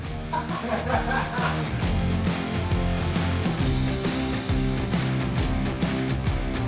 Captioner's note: rock music; crew members laughing